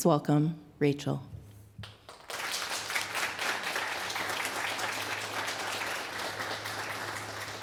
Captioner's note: applause